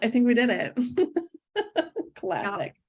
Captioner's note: laughs